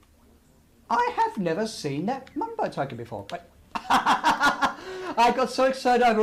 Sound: laughs

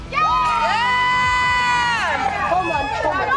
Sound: players cheering offscreen

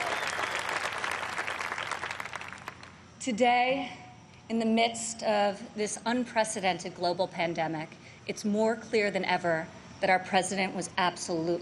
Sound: applause

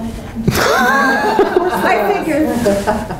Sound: laughing

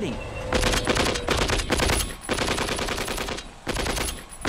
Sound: guns firing

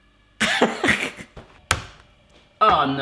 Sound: laughing

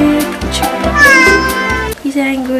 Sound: cat meow

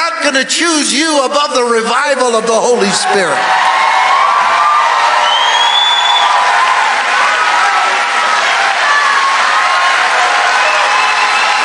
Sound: congregation cheering

